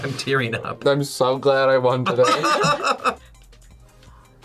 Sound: laughs

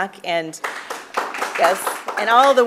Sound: applause

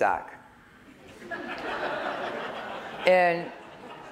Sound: laughter

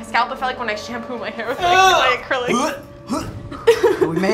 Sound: gagging

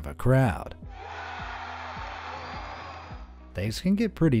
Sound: crowd cheering

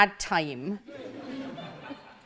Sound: audience laughs

